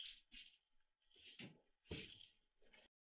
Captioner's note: none